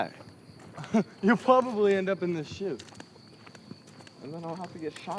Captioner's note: chuckles